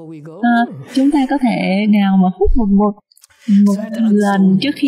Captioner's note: laughter